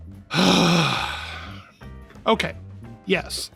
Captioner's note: sigh